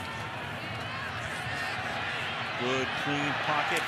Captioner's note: cheers, applause